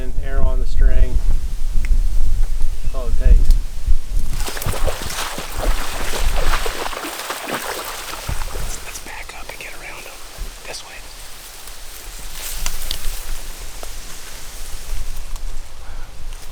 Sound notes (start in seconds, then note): 4.2 water splashing